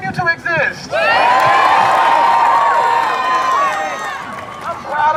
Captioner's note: cheers and applause